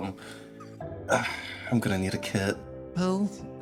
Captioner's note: sigh